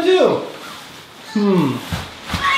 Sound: girl grunts

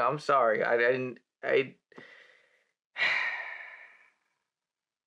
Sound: he take a deep breath

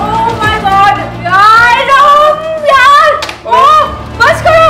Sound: screams again

